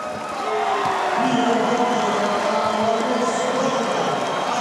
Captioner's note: cheering